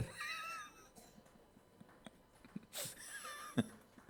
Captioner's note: laughs